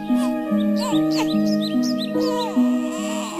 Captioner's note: baby crying